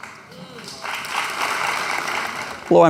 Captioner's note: applause